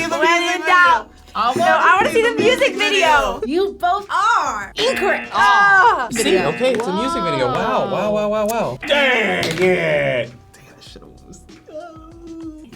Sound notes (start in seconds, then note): 4.8 buzzer beeps; 4.8 both exclaim; 11.9 wails